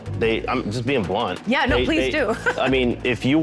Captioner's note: laughing